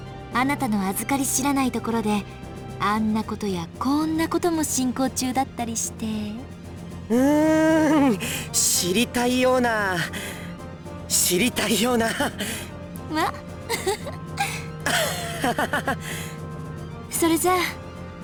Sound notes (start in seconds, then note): 13.6 awkward laugh; 14.8 chuckle